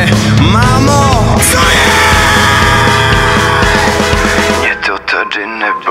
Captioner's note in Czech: pseudo-scream